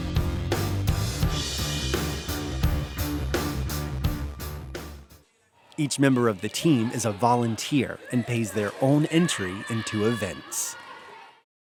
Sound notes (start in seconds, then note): 0.0 rock music; 6.1 voiceover